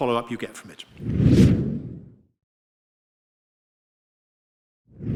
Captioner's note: air swooshing